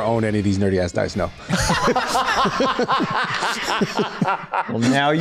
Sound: group Belly Laughs

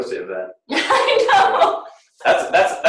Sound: laughing

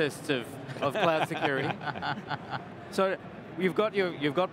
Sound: laughing

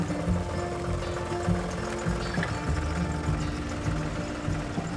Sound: car engine roaring

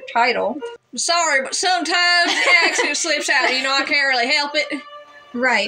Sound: laugh

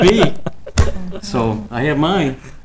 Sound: people laughing

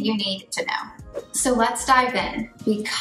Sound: air whooshing

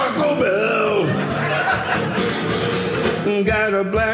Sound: audience laughing

